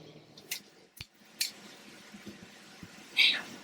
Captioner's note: Dr. Evans snaps